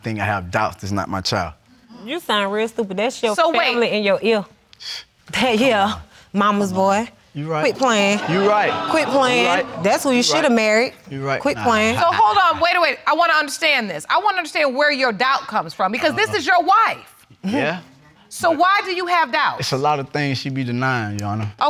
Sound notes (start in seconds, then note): 4.8 scoffs; 11.6 laughs